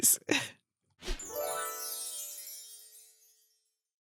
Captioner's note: gentle chiming